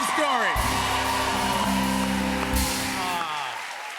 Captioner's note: cheers and applause